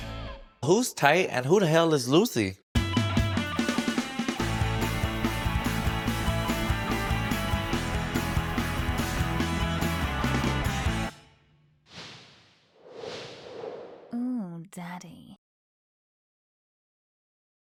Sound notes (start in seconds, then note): 2.8 light rock music; 11.9 air swooshes